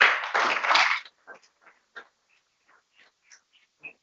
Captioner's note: people clapping